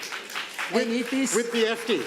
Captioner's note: audience applauds